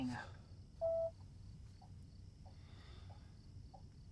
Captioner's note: phone beeps; insects chirping